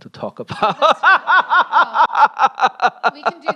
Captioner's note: laughs